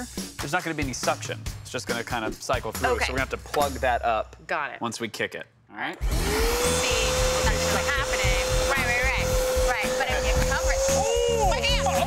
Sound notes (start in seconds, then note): 6.0 vacuum whirring